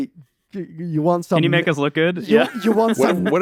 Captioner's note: laughs